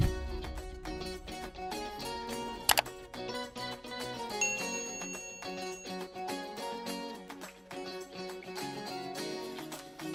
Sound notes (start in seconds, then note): 0.3 upbeat instrumental music; 3.9 keyboard click; 6.5 bell dings